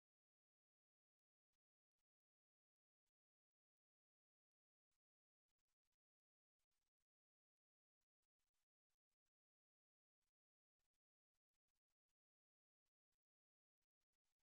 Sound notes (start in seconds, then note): none